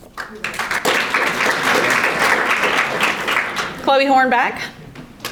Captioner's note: audience applauding